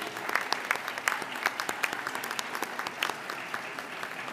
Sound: audience applauding

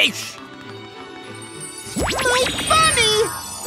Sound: zap

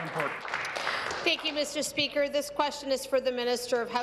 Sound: applause

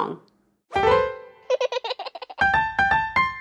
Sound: piano roll; baby giggle

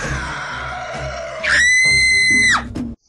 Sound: screams

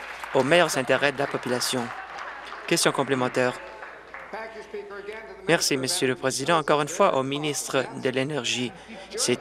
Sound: applause

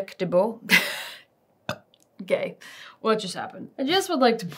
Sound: burps

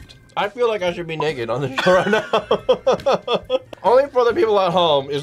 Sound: laughs

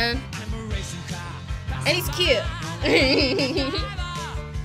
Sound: laughs

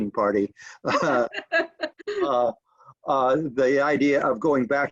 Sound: laughing

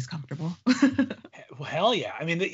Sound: laughing

